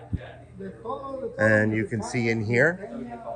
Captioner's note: workers talking